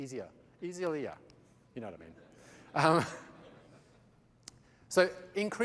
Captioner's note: laughter